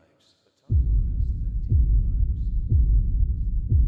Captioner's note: timer ticking